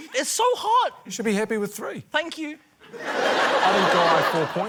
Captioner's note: laughter